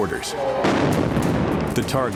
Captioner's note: explosion